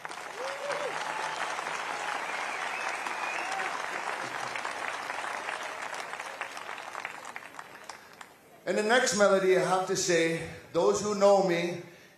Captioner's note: applause